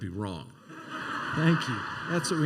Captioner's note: laughter